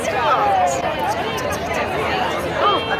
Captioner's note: stage whispers